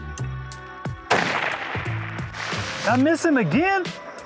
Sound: rifle firing

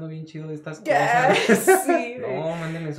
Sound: laughter & teasing

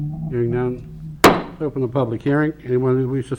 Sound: gavel banging

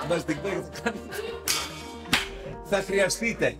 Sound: laughs

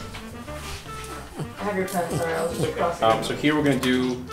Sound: dog snorts

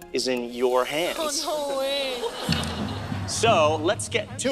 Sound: audience members laughing

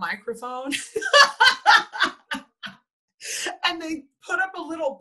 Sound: laughs

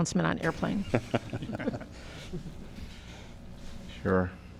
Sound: laughter

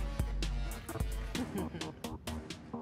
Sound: evil twin sister laughs

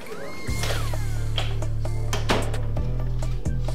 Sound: door closing

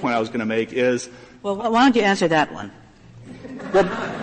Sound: laughter

